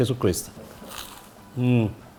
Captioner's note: crunch!